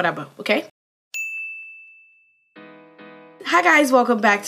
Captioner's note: ding